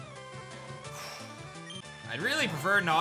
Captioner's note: scoffs